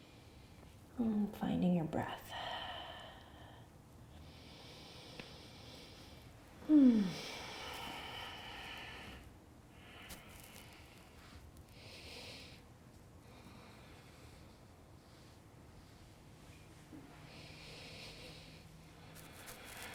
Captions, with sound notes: And then finding your breath. (exhaling and inhaling) Mmmm. (breathing)